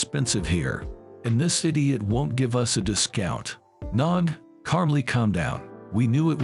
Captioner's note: calmly